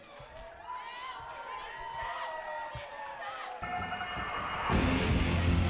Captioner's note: crowd chatter